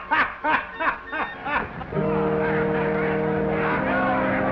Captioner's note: laughing